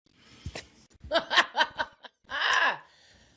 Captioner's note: laughs